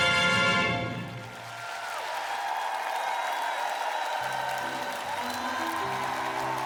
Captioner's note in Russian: ликование